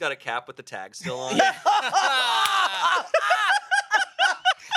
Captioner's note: everyone laughs